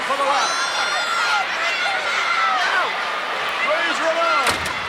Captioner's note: crowd shouting